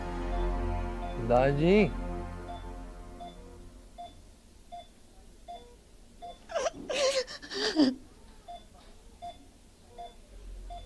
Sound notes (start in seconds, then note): 2.4 beeping; 6.4 crying